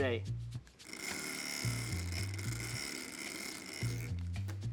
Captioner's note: stirrer vibrating